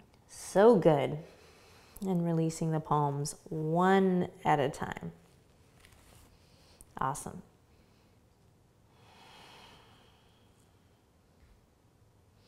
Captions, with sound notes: So good, and releasing the palms one at a time. Awesome. (exhales)